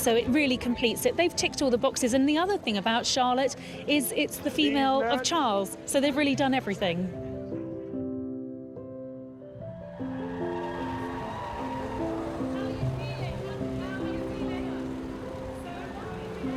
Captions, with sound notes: so it really completes it. They've ticked all the boxes. And the other thing about Charlotte is it's the female of Charles. So they've really done everything. (crowds cheering and applauding) (peaceful music continues)